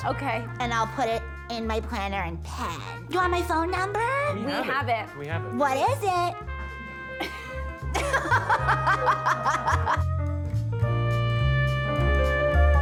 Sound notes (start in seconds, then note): 7.9 laughs; 7.9 molli laughs